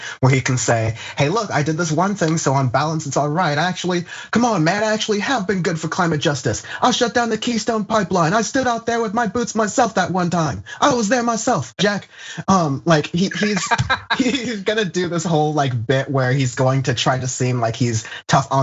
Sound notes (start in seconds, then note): 13.1 laugh